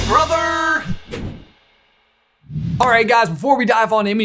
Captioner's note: transition whooshes